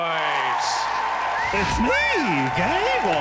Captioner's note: crowd cheering